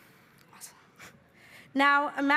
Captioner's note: laughing